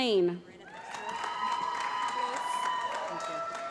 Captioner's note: applause